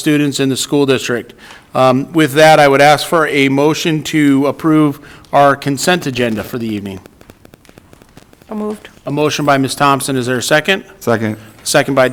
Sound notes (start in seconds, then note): none